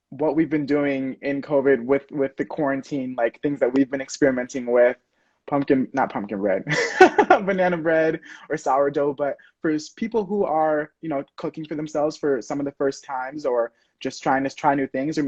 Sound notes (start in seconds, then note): 6.6 laughs